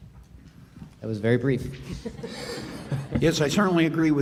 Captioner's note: laughs